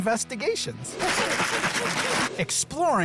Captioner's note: ingredients clattering